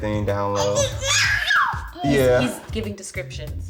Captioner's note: baby shouting